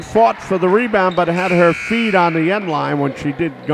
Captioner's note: buzzer sounds